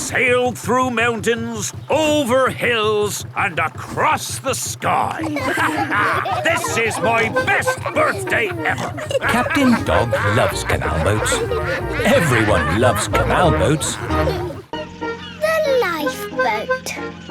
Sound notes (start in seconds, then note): 5.9 all laughing